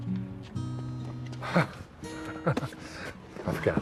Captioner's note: CHUCKLlNG